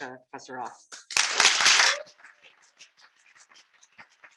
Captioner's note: applause